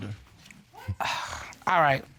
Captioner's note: Judge Dana sighs